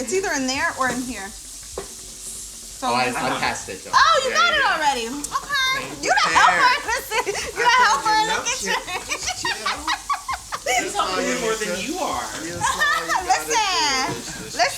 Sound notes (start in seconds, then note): 7.6 laughs